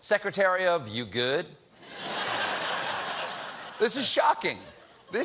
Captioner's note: laughter